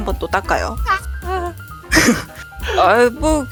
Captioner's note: laugh